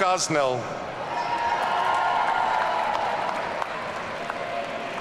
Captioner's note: audience cheering